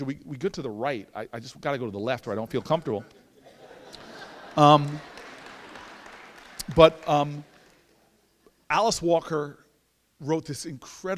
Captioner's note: laughter